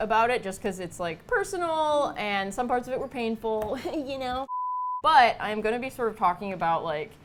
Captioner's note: giggles